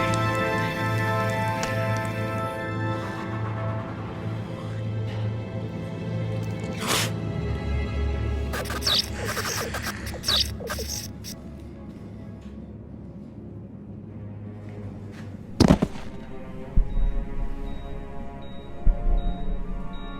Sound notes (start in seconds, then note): 0.0 solemn music; 6.4 Max spits; 8.5 vampire hissing; 8.5 lights buzzing; 15.4 Max thuds; 16.7 heart monitor bleeping